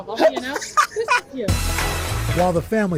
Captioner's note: laughter